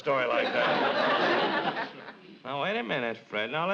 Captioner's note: audience laughs